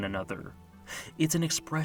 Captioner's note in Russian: вздох